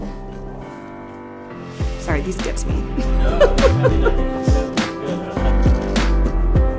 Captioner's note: offscreen crew chatter